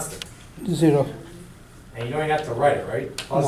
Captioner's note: voiceover